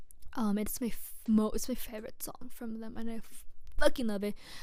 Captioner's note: stammers